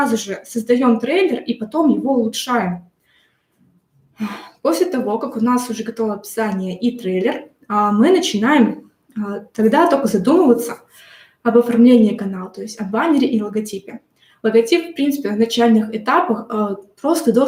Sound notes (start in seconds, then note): 4.2 sigh